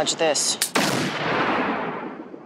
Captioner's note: gunshot